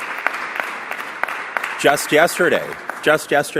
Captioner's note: applause